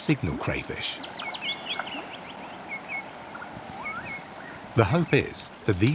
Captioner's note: birds singing